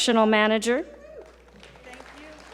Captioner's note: audience applaud